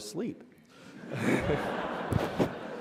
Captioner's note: laughter